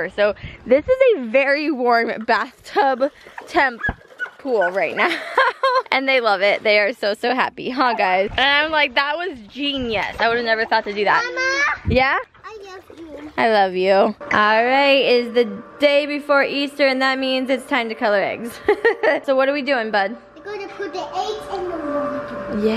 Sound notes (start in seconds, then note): 4.6 laughs; 18.6 laughs